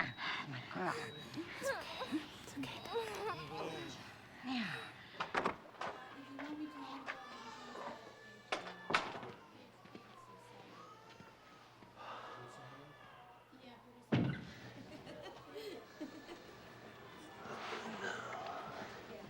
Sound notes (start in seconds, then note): 6.3 babies crying; 11.9 sighs; 14.7 laughing